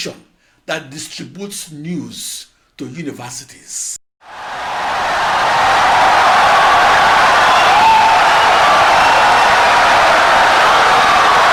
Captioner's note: wild applause and cheering for 17 seconds